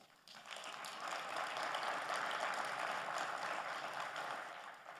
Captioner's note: audience applauding